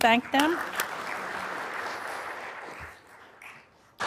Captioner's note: applause